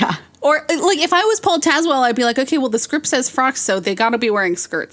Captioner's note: laughs